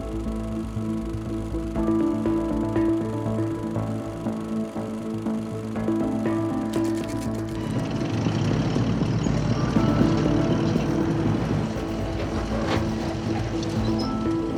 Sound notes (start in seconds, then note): 2.2 gentle orchestral music continues; 7.5 engine rumbling